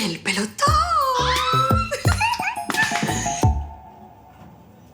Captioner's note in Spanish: Exclamaciones y risas